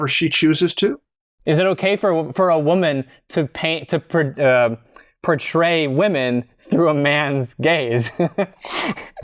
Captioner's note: laughter